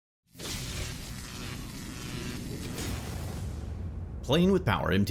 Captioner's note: electricity crackling